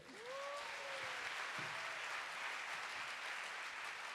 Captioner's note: audience applauding